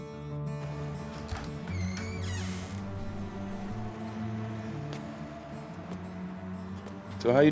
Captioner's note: DOOR CREAKS OPENS,</i> <i> FOOTSTEPS